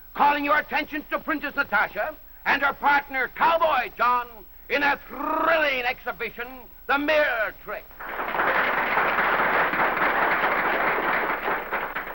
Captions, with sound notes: Calling your attention to Princess Natasha and her partner Cowboy John in a thrilling exhibition, the mirror trick! [APPLAUSE]